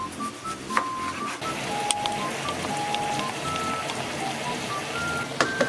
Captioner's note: sizzle Sizzle